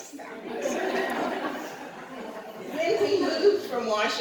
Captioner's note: laughter